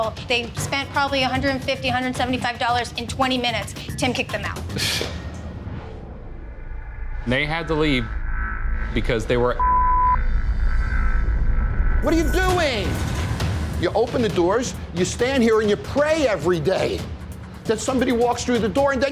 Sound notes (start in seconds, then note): 5.0 scoffs; 9.5 beep